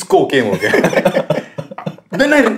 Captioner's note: laughter